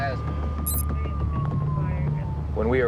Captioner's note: siren blaring